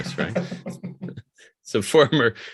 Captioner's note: laughs